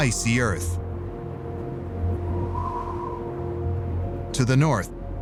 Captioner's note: wind howling